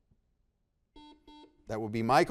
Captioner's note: buzzer beeps